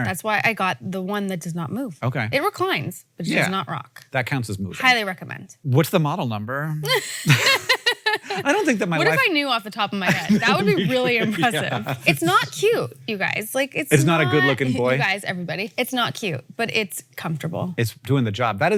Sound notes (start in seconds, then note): 6.9 Rachel and Hank laugh